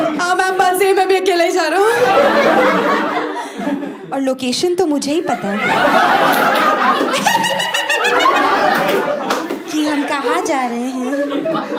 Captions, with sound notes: yes ma'am, you’re right I am also travelling alone and it just so happens that only I know the drop location *evil laugh* exactly where we’re headed